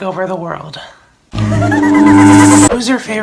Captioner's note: demonic subliminal message girl noise